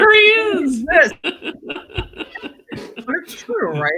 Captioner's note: laughing